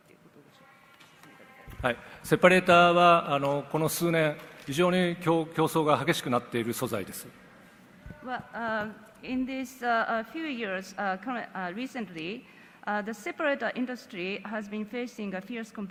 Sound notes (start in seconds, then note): 3.3 speaks Japanese